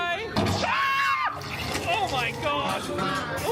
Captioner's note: screams